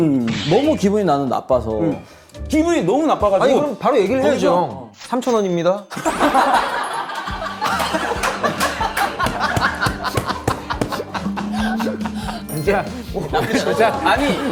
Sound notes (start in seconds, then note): 7.8 burst out in laughter